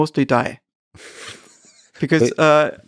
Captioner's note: Lex laughing